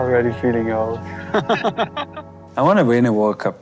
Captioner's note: laughs